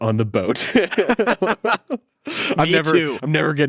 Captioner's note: both laugh